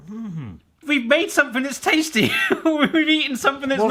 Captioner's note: laughs